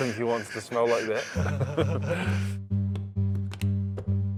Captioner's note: both laugh